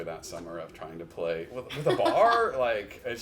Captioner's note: chuckles